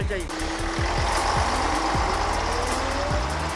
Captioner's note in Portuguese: barulho do ônibus